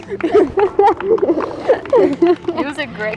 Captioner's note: both chuckling